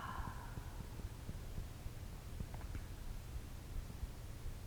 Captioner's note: sighing deeply